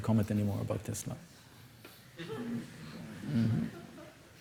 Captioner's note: laughter